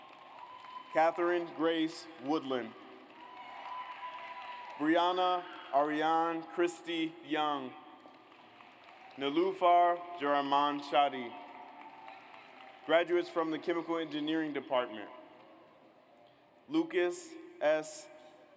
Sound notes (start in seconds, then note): 0.0 audience applauds; 3.1 audience cheers; 8.0 audience applauds; 11.2 audience applauds